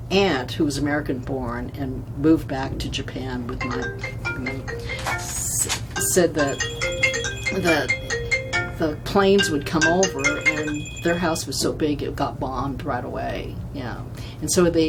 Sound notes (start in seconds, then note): 3.7 phone rings